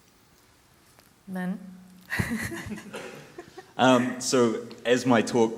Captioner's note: laughs